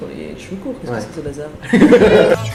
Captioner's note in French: rires